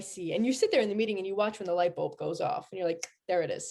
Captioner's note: mouth click